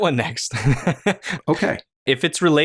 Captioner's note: laughter